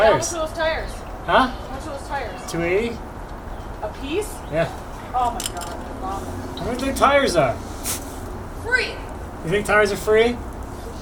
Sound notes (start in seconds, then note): 6.3 murmurs